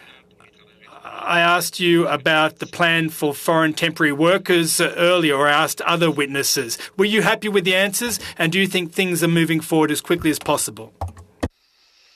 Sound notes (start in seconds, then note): 0.5 speaking French